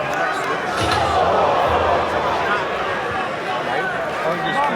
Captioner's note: crowd groans